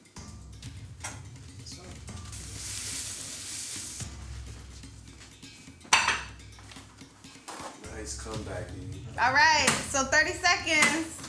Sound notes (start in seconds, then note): 5.9 plate clanks